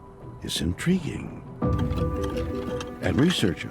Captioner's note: scraping